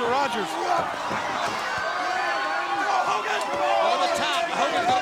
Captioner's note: crowd cheering; wrestlers grunting